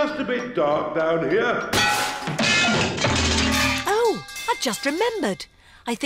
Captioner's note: clanging and crashing